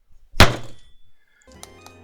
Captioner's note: desk slam 3